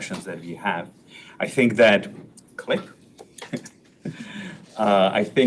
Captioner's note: chuckles